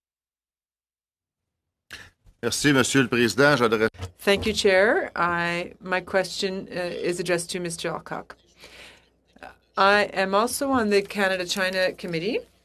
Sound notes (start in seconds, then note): 8.0 speaking French